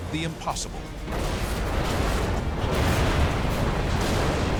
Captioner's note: explosions